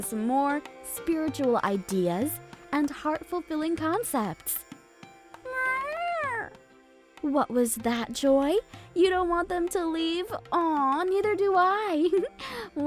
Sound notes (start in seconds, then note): 5.4 Joy meows; 12.0 giggles